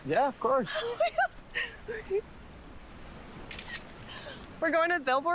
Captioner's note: giggling